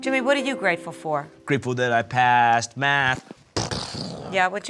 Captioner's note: imitates explosion